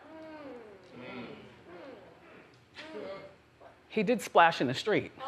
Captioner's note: audience murmurs